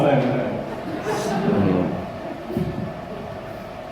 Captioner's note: crowd laughter